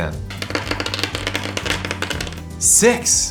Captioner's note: dice rattle